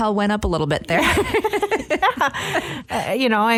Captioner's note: laughs